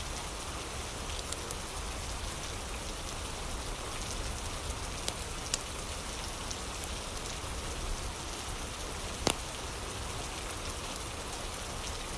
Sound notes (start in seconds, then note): 0.0 fire crackling